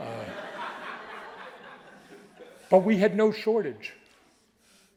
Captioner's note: audience laughing